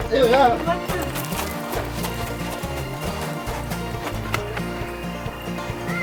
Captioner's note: bright guitar music; footsteps thumping; birds chirping; bright guitar music